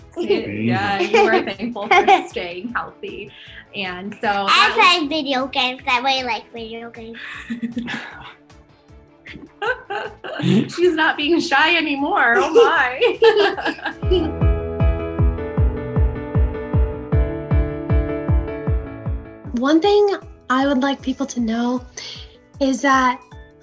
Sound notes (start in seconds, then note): 7.5 laughing; 12.3 laughing; 14.4 upbeat music